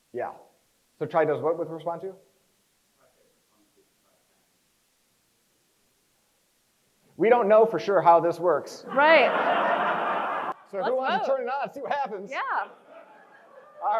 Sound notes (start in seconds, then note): 8.9 crowd laughs